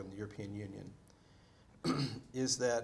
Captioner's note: clears throat